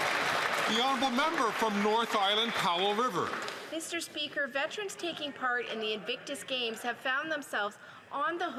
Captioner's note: some Applause